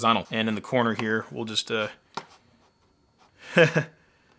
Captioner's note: laughing